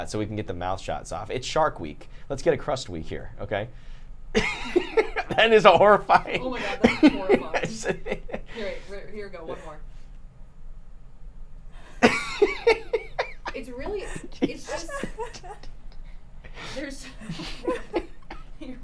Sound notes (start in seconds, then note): 5.7 laughing; 12.0 laughing